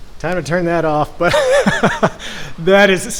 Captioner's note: laughs